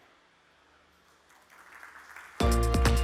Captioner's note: applause